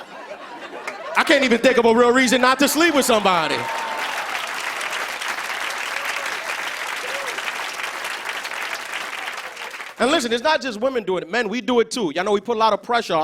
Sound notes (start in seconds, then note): 5.3 cheers and applause